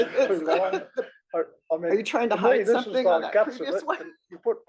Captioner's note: laugh